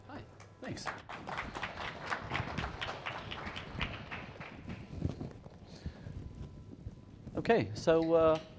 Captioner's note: applause